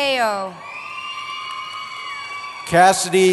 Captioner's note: cheering